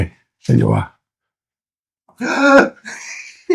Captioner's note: laughing